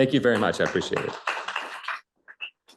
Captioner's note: applause